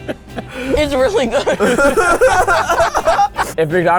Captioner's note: all laugh